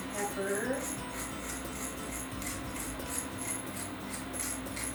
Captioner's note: mill grinding